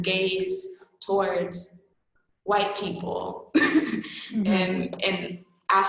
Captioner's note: laughing